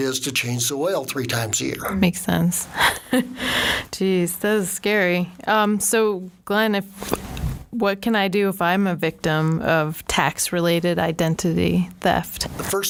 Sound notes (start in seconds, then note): 2.7 laughing